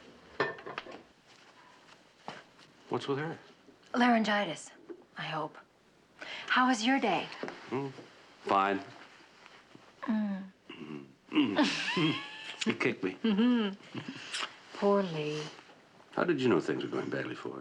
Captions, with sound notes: What's with her? Laryngitis. I hope. How was your day? Hmm, fine. [moaning] He kicked me. Mmm-hmm. Poor Lee. How did you know things were going badly for her?